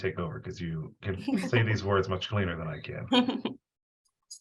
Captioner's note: laughs